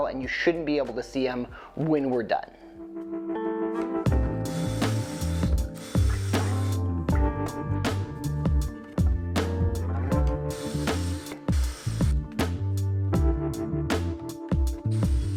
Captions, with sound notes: and you shouldn't be able to see 'em when we're done. (lively music) (drill whizzing)